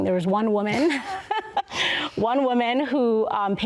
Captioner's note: both laugh